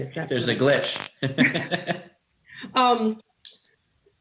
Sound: laughing

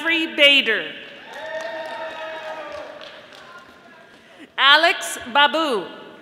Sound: audience applauding

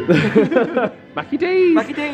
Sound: laughs

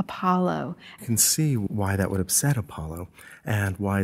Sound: voiceover

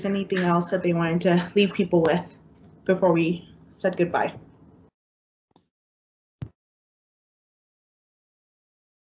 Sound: pause

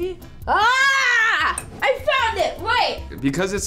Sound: screams

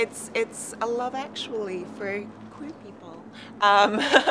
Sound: laughs

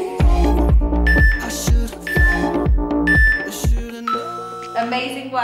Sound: beeping sound

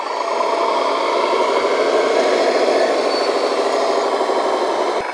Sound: bulldozer engine revving

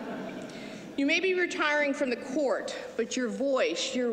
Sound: laughter

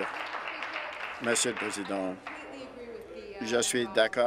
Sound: applause

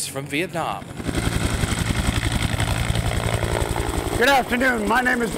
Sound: helicopter blades whirring

